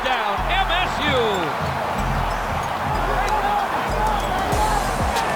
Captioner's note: crowd and players cheering; soft upbeat music